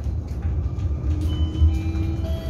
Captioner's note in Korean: 하차벨 소리